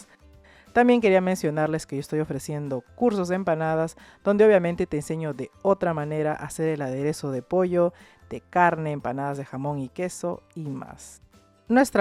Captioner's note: in spanish